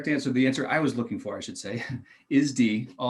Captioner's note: laughing